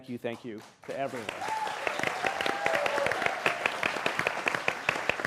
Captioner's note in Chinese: 掌聲